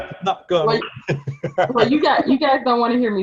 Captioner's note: laughing